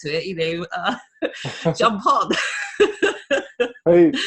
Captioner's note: laughs